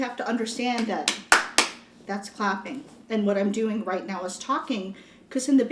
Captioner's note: clapping